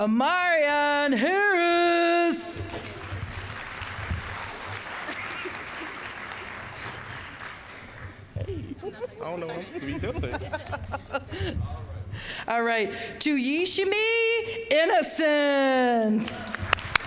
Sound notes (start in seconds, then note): 2.6 applause; 10.8 laughing; 16.2 applause